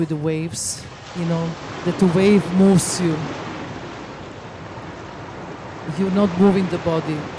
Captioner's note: water rumbling